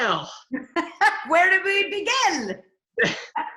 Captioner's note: laughs